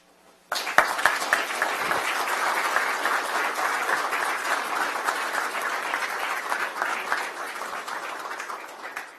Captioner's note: applause